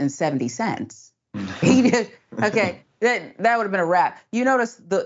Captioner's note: laugh